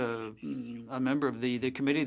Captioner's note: speaking French